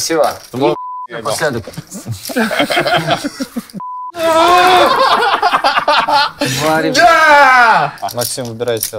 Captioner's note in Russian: Смех